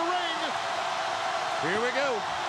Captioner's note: audience cheering